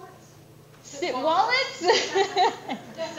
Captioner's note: laugh